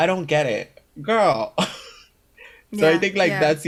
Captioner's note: laughs